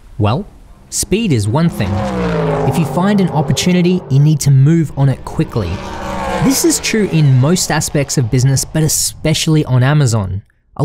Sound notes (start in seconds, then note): 2.1 engines rumble